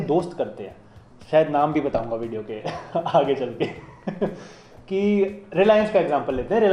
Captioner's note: sarcasm